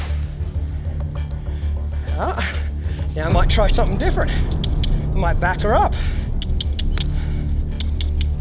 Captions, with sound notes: Ah, I might try something different. I might back her up (clicking)